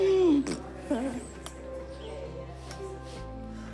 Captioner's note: laughs; blows raspberry